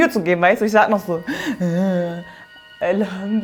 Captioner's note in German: Stöhnt